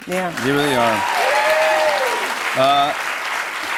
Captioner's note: cheers and applause